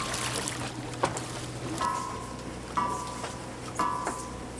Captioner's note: water splashing